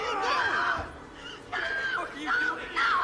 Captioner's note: person screaming